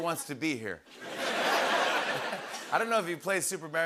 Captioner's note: laughter